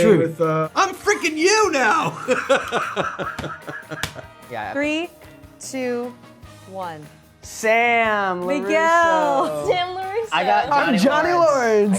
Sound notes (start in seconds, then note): 1.9 both laughing